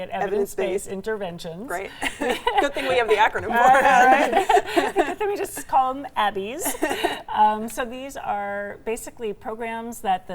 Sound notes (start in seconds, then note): 1.8 laughing; 4.5 all laughing